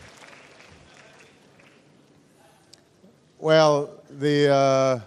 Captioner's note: applause